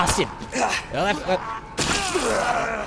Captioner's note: panicked gibberish